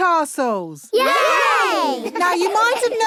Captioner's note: laughing